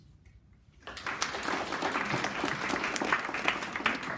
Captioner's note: clapping